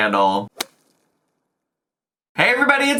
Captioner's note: logo thuds